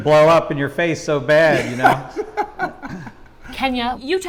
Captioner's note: panelists laughing